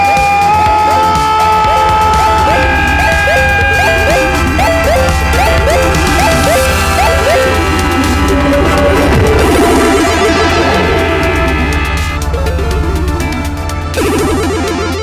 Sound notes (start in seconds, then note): 1.0 Martin yelling; 1.0 video game beeping; 9.1 video game beeping